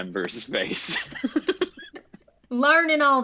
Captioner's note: cast laughs